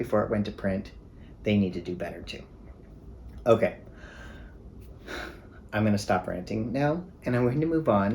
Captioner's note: deep breath